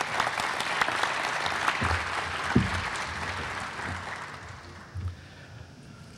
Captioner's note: applause